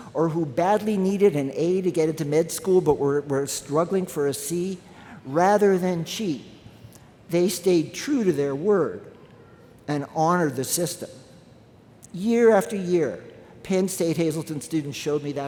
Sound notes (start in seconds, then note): none